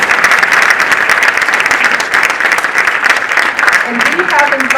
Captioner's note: audience applauding